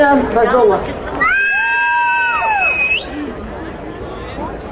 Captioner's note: crowd cheering